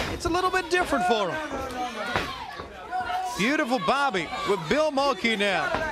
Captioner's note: crowd cheering